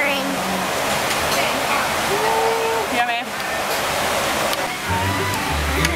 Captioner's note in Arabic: الضوضاء الخلفية مطعم